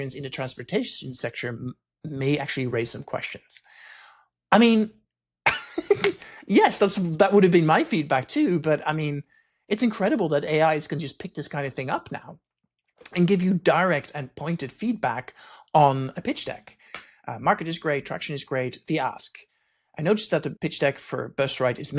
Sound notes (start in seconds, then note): 5.5 dorky chuckle